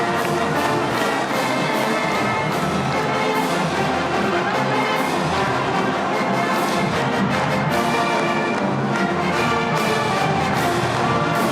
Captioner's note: cheers and applause